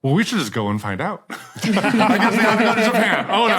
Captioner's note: group laughing